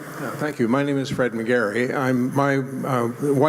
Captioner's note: voiceover